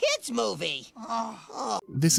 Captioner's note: both groaning